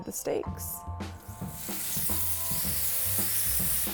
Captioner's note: steak sizzling